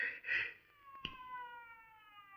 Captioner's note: finger snaps